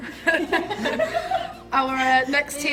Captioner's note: laughter